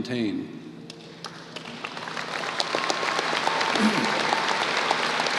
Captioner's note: applause